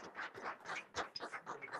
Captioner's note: applause